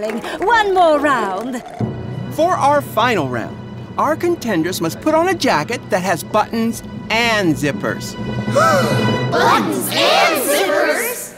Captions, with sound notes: One more round. For our final round, our contenders must put on a jacket that has buttons and zippers. [gasping] Buttons and zippers?